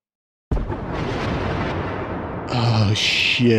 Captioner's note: explosion